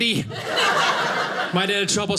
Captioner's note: audience laughing